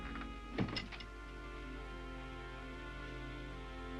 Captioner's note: door closes